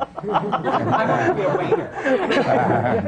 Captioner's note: laughter